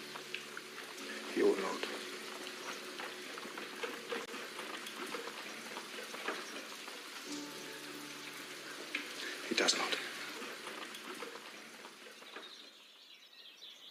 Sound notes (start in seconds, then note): none